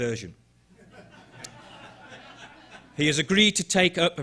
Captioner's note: audience laughing